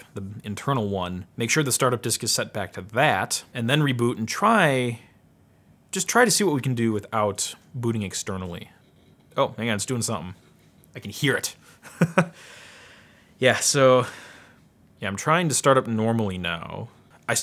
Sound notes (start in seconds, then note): 9.0 hard drive operating; 11.8 chuckles